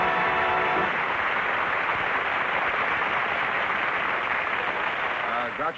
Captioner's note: applause; theme music; applause